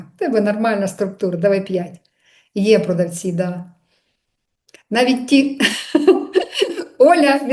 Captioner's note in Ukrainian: сміх